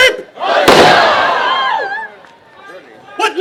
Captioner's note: pistol fires